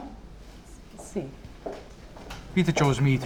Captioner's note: in italian